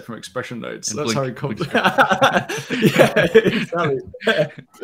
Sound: laughs

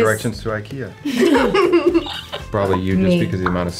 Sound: giggling

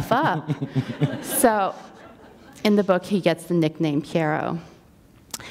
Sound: laughter

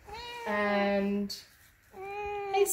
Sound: cat meows

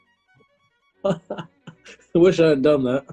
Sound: chuckling

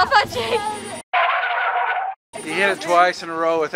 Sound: car brakes screeching

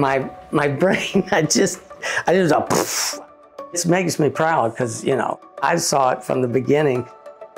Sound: makes explosion sound

